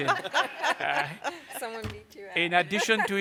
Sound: laughter

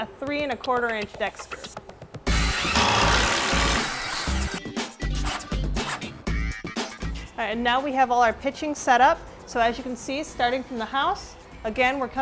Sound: drilling

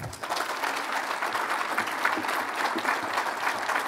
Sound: applause

